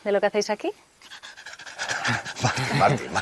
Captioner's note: awkward laugh